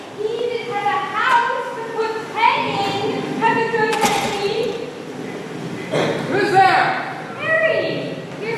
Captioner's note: door opens offscreen